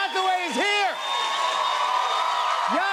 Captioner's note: cheers and applause